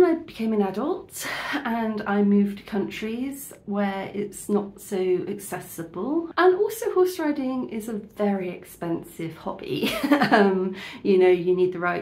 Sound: laughing

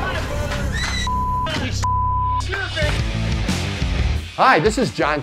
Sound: beep

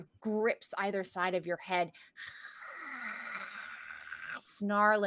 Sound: snarling

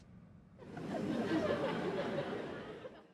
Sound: audience laughs

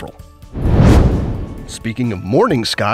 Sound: comet whooshing

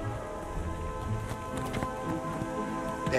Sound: footsteps

